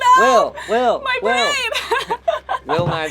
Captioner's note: laughs